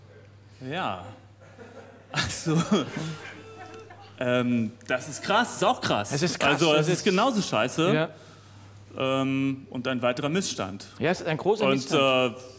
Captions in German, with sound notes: Ja. (lacht) Also ... Das ist auch krass. Das ist genauso scheiße. Und ein weiterer Missstand. Ein großer Missstand.